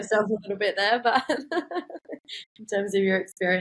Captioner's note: laughs